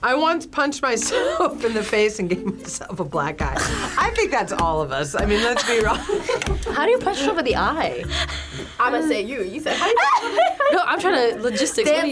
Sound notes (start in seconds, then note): 5.2 laughs